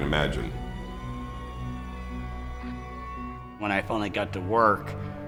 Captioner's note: sirens wailing